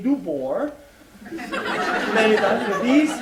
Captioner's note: laughter